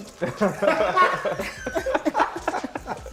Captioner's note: laughter